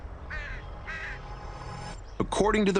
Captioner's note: bird caws